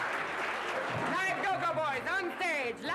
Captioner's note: laughter